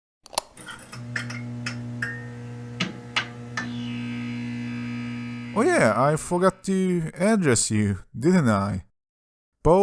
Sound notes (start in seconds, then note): 1.0 neon lights buzzing